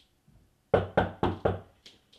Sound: knocking

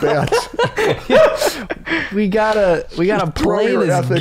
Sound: laughter

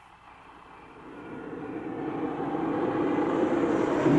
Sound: whooshing sound

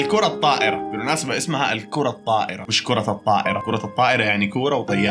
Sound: in Arabic

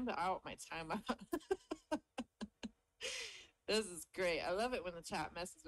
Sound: laughs

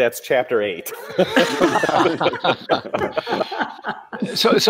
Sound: laughing

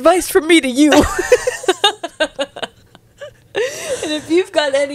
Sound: panel laughing

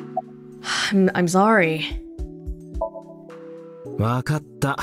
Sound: exhales

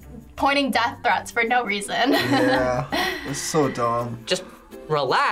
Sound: chuckles

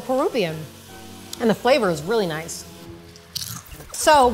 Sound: chip crunching

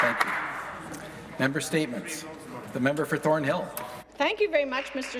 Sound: some Applause

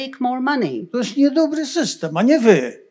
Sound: foreign language

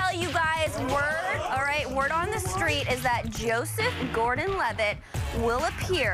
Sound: cheers

